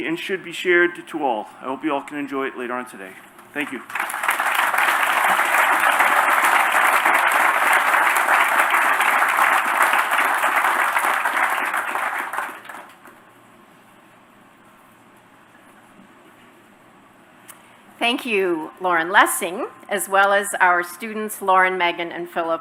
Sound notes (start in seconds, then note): 7.0 applause